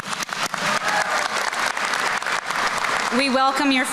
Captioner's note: applause